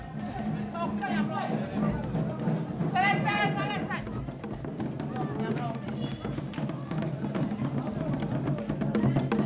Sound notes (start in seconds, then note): 0.3 drums beating; 2.7 men shouting in foreign language